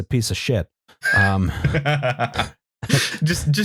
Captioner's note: laughs